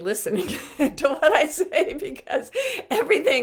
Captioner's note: laughing